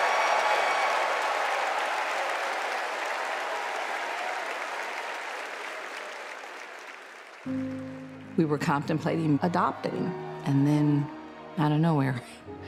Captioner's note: cheers and applause